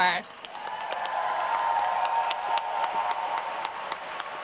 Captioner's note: crowd cheers